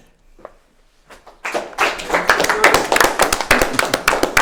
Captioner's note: applause